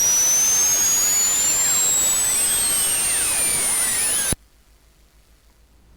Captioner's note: ascending tone; ascending tone with significant aliasing